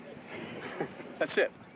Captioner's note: laughing